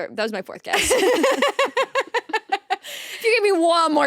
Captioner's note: both laughing